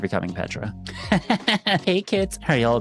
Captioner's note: laughs